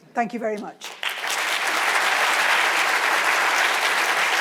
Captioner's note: audience applauds